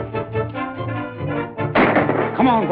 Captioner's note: gunshot